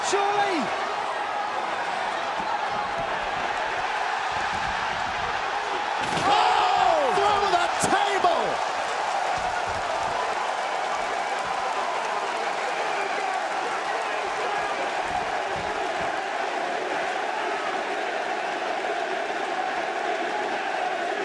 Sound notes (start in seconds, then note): 9.2 crowd cheering